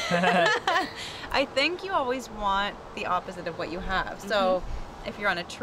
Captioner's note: chuckle